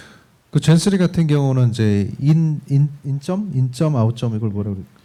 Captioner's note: speaking korean